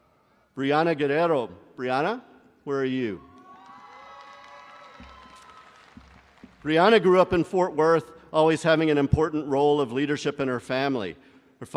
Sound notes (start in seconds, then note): 3.2 crowd cheering